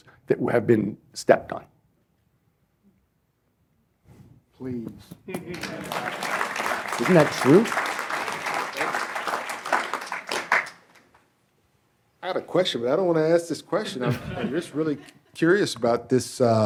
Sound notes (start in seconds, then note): 5.3 applause